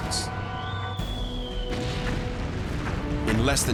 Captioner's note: artillery whistle